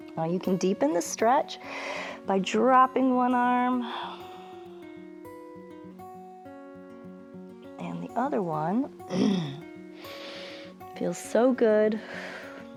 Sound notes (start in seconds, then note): 9.1 clears throat; 9.9 exhales